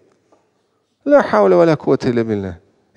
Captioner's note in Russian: Говорит на арабском